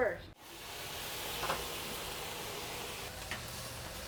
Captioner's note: pan sizzling